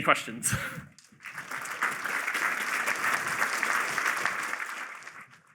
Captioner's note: applause